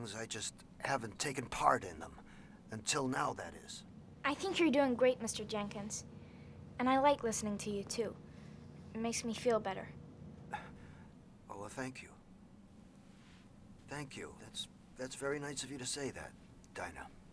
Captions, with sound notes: I JUST HAVEN'T TAKEN PART IN THEM. UNTIL NOW, THAT IS. I THINK YOU'RE DOING GREAT, MR. JENKINS, AND I LIKE LISTENING TO YOU TOO. IT MAKES ME FEEL BETTER. [ Chuckles ] WELL, THANK YOU. THANK YOU. THAT'S VERY NICE OF YOU TO SAY THAT, DINAH.